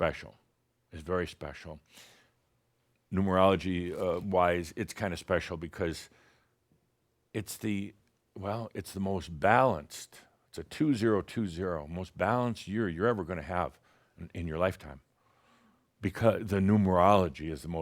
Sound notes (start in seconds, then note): none